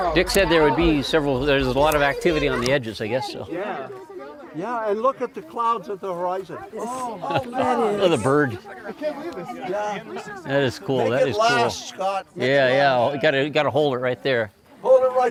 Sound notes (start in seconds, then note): 10.0 laughing